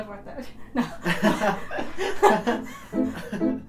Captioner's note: laughter